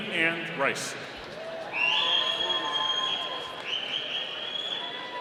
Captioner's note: audience cheering